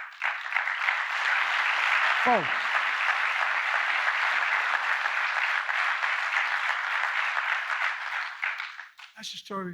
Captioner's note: applause